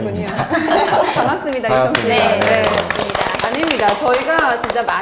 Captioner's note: applause